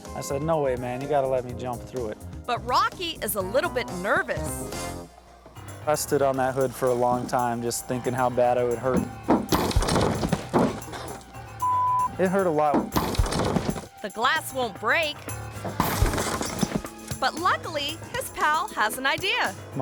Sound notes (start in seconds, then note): 11.6 beep